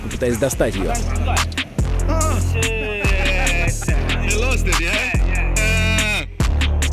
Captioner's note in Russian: говорят на сомалийском